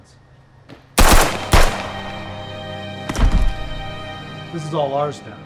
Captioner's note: guns banging; suspenseful music